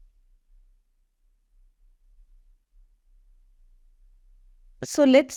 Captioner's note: silence